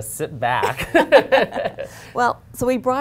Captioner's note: laughter